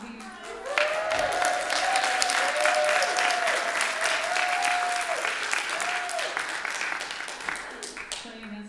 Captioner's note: applause